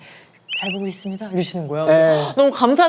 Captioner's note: whisper whisper